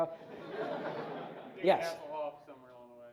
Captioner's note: audience laughs